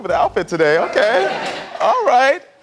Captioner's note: audience laughs